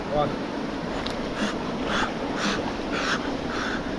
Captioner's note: panting